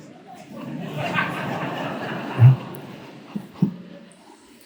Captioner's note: audience laughs